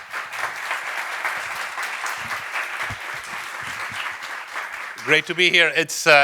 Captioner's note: audience applauding